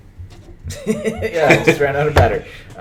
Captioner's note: laughter